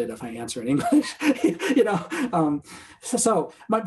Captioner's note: laughter